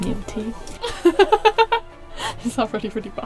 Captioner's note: laughing